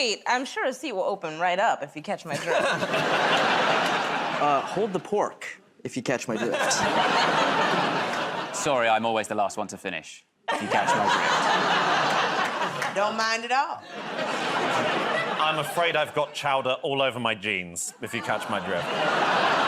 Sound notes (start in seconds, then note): 2.3 laughter; 6.3 laughter; 19.5 laughter, groaning